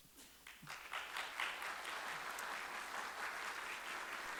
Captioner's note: audience applauding